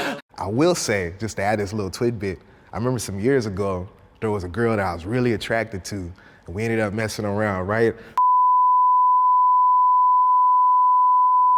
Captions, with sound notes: - I will say, just to add this little tidbit, I remember some years ago there was a girl that I was really attracted to and we ended up messing around, right? (beep)